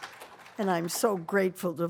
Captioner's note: applause